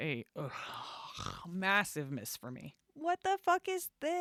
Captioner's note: audible disgust